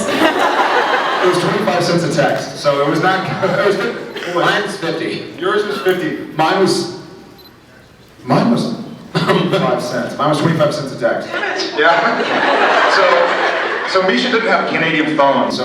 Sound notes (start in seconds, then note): 0.0 laughs; 9.6 laughs; 11.3 laughs; 15.1 laughs